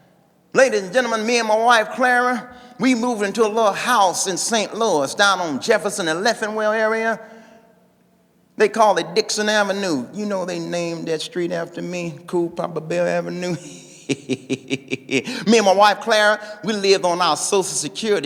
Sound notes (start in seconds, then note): 13.6 laughing